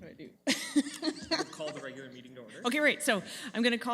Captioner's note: laughing